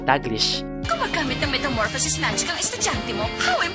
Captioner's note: speaks in Tagalog